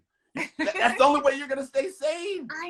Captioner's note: laughter